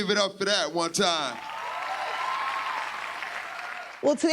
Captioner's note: applause